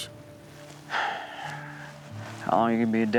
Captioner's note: exhales